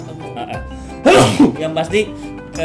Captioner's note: sneeze